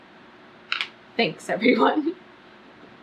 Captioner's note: laughs